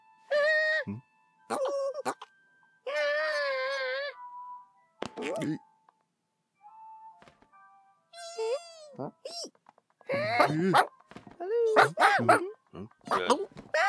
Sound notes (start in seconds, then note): none